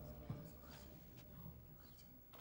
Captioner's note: spectators murmuring